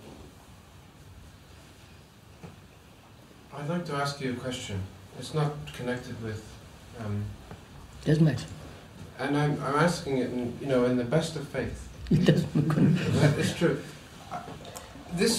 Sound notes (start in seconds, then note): 12.0 laughs